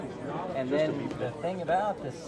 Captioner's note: murmurs